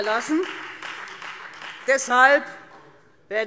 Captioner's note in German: Beifall Freie Demokraten